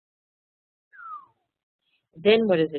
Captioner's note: whistling downward